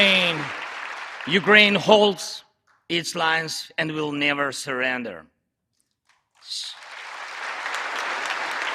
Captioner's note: applause